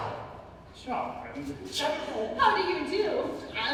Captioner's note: whispered